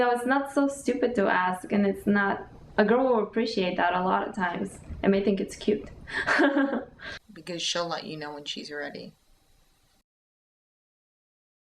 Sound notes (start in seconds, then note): 6.0 chuckling